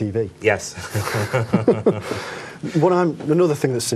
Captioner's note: laughs